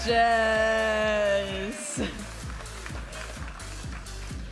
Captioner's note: audience applauding and cheering; vibrant music